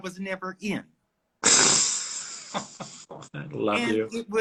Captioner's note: laughs